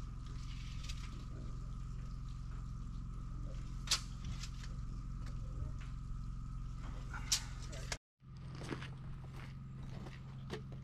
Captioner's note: footsteps